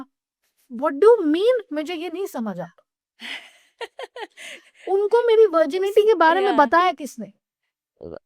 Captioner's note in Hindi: हंसी